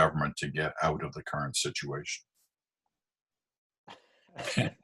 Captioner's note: laughing